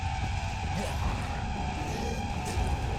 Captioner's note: chase music grinds harshly; monster garbles; chase music grinds harshly; monster growls